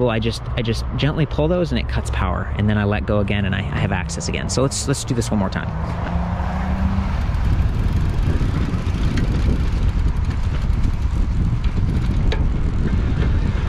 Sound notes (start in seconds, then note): 5.7 bike rattling; 6.8 wind gushing